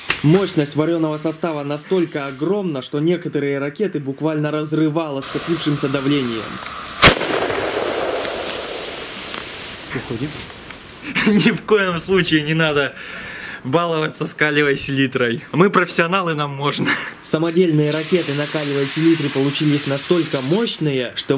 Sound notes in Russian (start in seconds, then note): 5.2 шипение; 7.1 взрыв